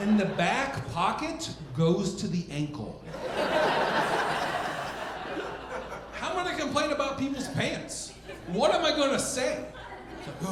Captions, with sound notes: and the back pocket goes to the ankle. (audience laughing) How am I gonna complain about people's pants? What am I gonna say?